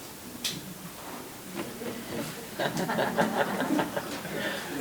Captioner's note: members chuckling